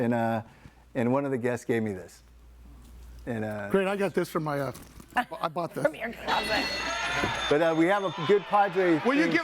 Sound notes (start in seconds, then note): 6.3 bell dinging